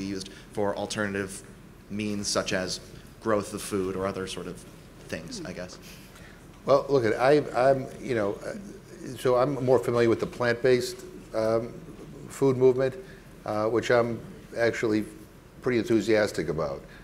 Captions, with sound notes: used for alternative means such as growth of food or other sort of things, I guess? - Well, look it, (stammering) So I'm more familiar with the plant-based food movement, which I'm actually pretty enthusiastic about